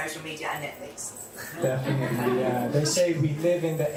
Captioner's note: laughter